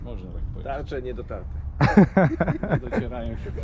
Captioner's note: laughter